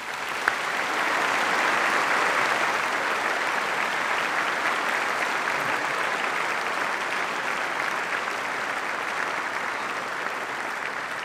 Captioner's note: applause